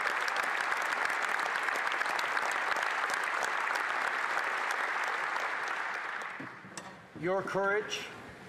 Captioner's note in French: applaudissements